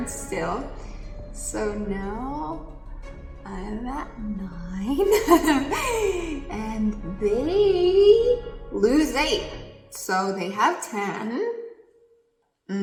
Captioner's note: laughs